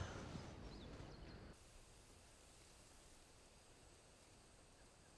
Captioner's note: Ben sighs; birds singing